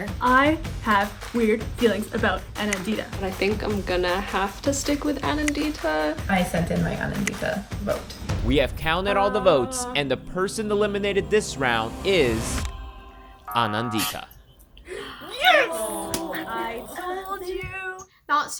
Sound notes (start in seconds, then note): 13.6 buzzer sounding; 14.8 women groaning